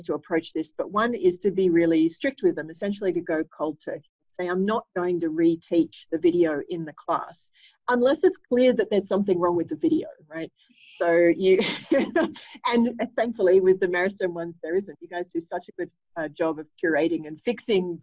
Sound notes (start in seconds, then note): 11.6 laughter